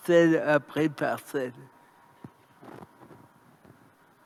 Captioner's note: moment of silence